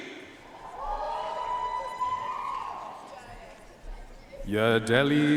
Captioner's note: audience cheering and applauding